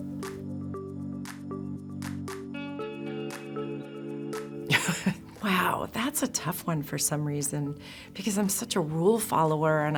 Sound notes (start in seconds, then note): 0.0 slow jazz music; 4.7 chuckles